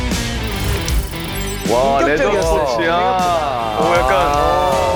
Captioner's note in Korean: 감탄